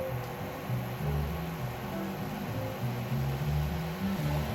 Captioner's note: a boiling sound